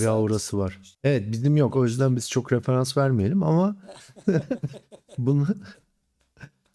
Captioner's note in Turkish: kahkaha